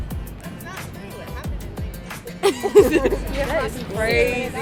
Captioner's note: laughs